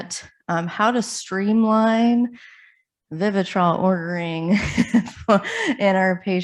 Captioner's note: chuckles